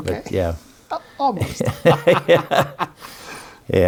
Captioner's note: laughs